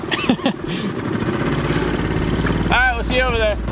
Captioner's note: motorboat revving